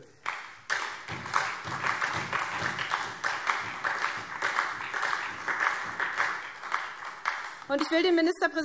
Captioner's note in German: Beifall SPD